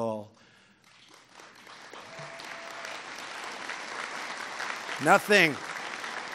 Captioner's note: applause